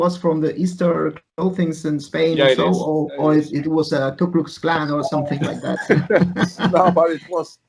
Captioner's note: laughs